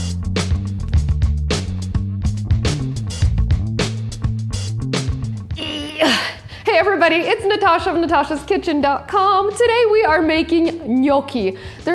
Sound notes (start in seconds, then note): 0.2 light upbeat music; 5.5 straining